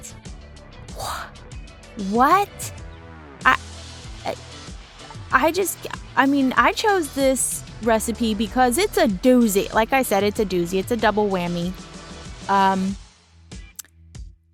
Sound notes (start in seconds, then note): 2.8 stuttering